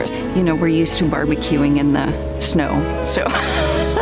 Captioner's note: laughs